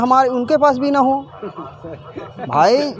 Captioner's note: people in background laughing